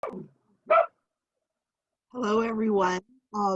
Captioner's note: dog barks